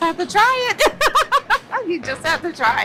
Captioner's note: laughs